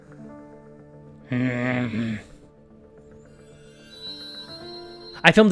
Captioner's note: grumbles